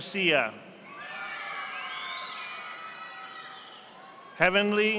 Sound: audience applauding

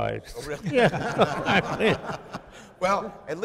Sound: chuckling

